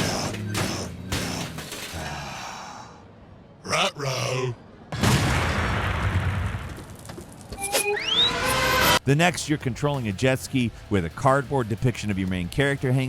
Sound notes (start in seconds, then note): 0.2 monster clanks; 0.2 monster sighs; 4.9 explosion blasts